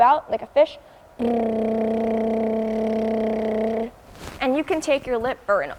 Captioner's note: lip burring sound